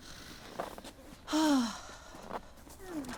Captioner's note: Wendy sighs deeply